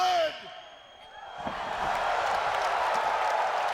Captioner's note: crowd cheering